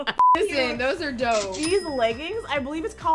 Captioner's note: laughs; beep; cash register rings